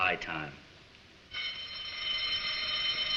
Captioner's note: fire alarm bell sounding